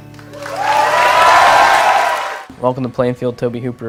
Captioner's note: crowd cheering